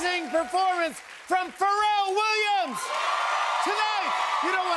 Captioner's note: cheers and applause